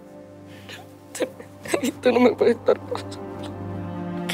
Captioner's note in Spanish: llora